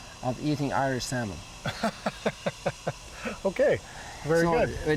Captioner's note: laughs